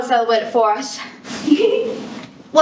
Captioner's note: giggle